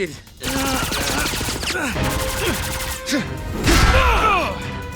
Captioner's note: groaning; blasting